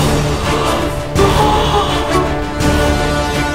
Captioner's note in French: Musique épic; Gémissement chelou de Norman; Musique épic